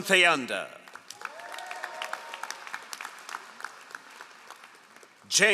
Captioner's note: all applauding